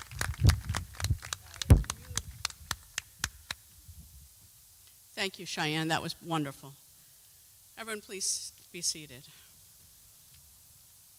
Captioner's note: applause